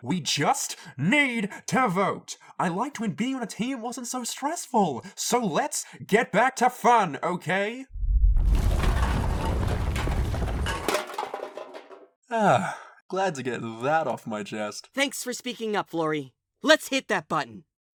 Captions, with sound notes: We just. Need. To Vote. I liked when being on a team wasn't so stressful so let's... get back to fun, okay? [EARTHQUAKE] [CANS RATTLE] Ah... glad to get that off my chest. Thanks for speaking up, Floory. Let's hit that button.